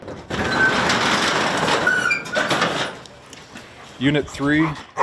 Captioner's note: door squeaking open